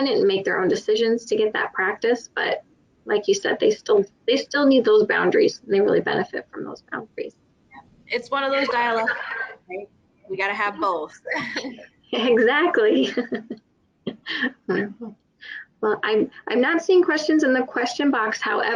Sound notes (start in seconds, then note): 12.2 laughs; 12.2 laughter